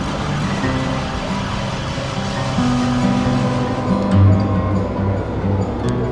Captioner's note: city sounds